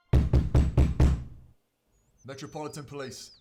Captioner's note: police knocking